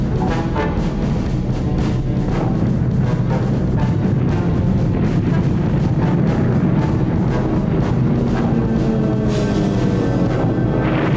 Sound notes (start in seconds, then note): 1.2 explosions